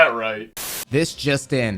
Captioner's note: static crackling